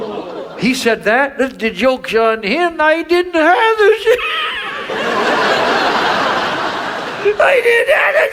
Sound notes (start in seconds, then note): 3.8 audience laughs; 3.8 laughs